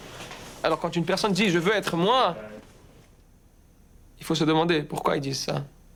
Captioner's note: speaking in foreign language